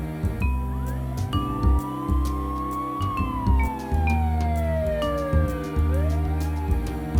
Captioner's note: sound of an ambulance siren